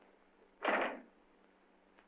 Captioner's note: door closes